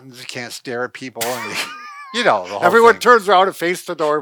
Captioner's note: laughing